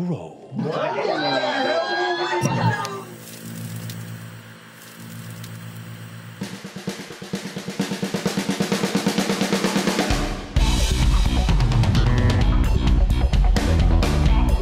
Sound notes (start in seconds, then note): 2.5 click, TV static; 6.4 groovy theme